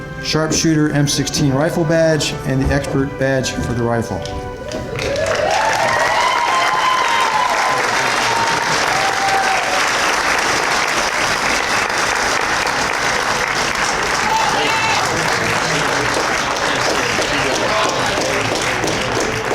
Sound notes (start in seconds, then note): 4.6 applause and Cheers